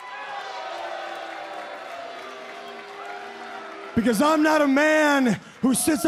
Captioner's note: crowd cheering